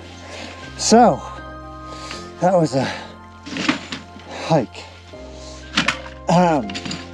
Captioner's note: equipment clanging